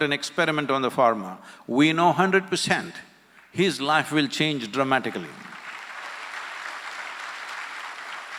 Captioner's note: applause